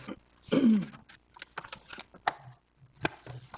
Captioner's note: clears throat